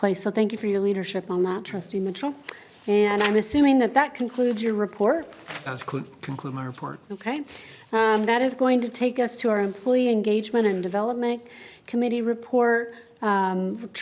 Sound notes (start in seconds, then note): none